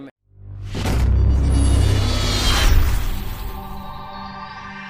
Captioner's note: logo booming